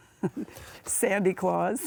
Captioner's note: laughs